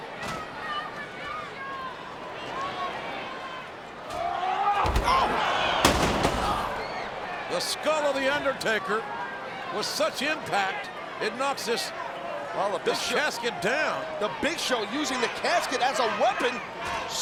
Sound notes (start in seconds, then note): 4.2 Big Show grunting